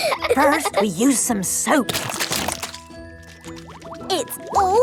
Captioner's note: laughing; squirt! squirt!